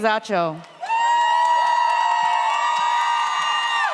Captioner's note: audience cheers